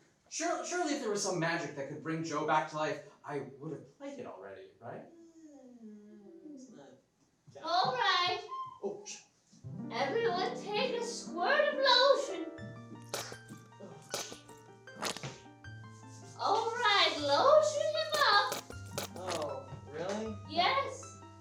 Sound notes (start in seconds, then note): 14.0 squirting sound